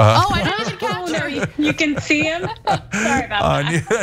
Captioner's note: laugh